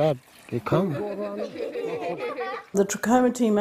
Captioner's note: giggling